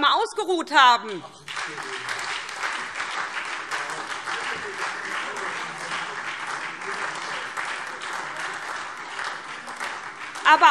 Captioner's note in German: Beifall SPD